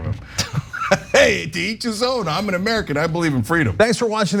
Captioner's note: laugh